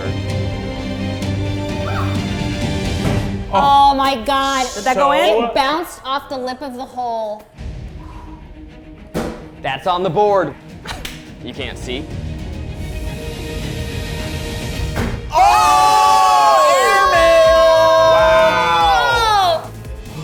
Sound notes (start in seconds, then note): 0.0 dramatic music; 12.6 dramatic music; 15.3 everyone exclaims